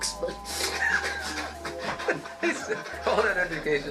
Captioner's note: both laughing